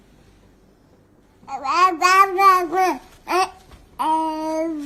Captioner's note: baby babbling